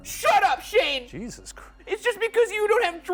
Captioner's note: none